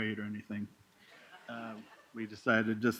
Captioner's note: laughter